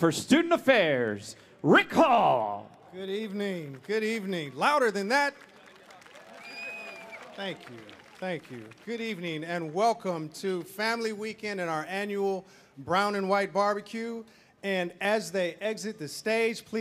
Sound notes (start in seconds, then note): 6.0 audience applauding; 7.6 audience cheering